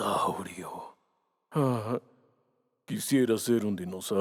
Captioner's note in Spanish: Suspiro largo